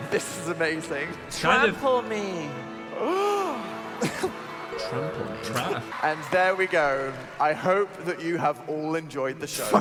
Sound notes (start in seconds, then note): 2.7 gasping; 3.9 audience laughing